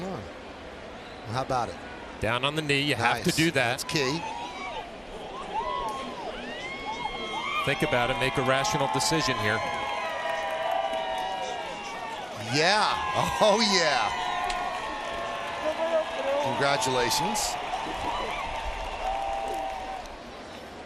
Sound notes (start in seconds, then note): 10.5 screams; 18.0 cheers and applause